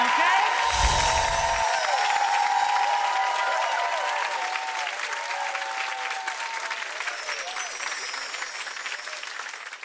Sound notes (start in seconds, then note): 0.4 bells chiming; 0.5 cheering and clapping; 3.1 audience cheering and clapping; 6.8 bells chiming